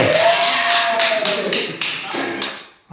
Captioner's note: applause